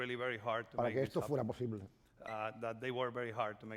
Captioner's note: speaking spanish